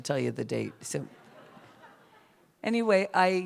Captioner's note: laughter